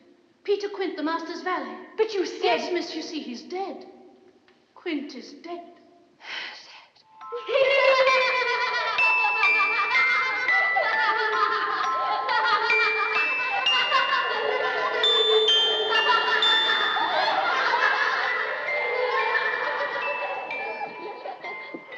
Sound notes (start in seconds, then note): 6.0 gasps; 8.0 laughing; 8.0 music box; 18.9 laughing continues, fades